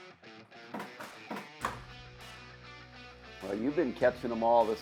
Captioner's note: fish clunking